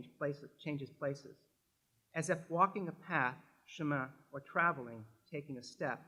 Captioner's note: french; french